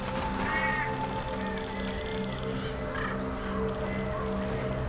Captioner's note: birds cawing